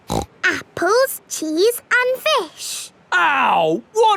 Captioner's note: snorts